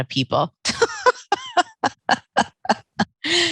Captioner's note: laughing